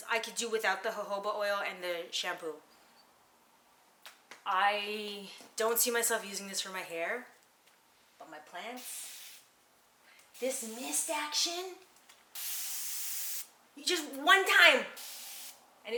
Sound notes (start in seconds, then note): 10.3 sprays bottle; 12.3 sprays bottle; 14.9 sprays bottle